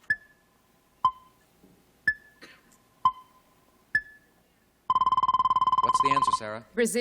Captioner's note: timer dinging